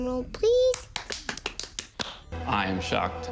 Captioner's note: claps